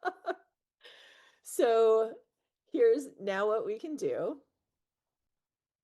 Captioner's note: laughs